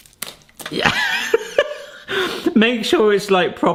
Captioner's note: laughs